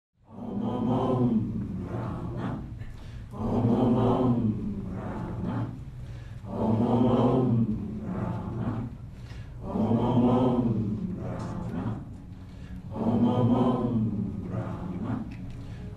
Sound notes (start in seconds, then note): 0.0 chanting